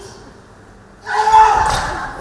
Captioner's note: screams in pain